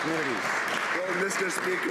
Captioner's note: some Applause